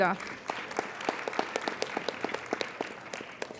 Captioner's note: applauding